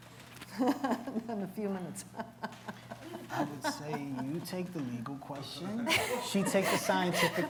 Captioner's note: laughs